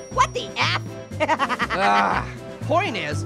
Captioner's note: groans; laughing